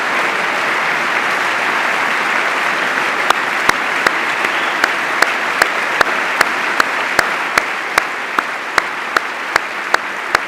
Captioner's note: applause